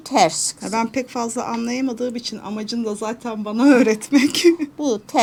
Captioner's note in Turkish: kahkaha